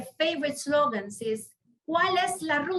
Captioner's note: speaks in foreign language